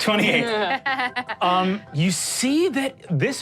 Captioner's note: laughs